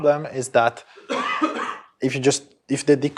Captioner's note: cough